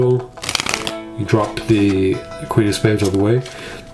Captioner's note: cards slapping